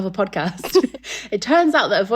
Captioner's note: laughing